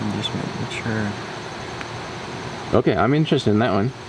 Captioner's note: investigators murmuring